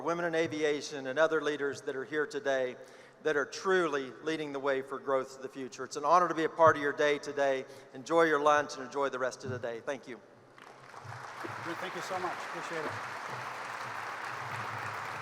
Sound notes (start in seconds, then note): 10.5 applause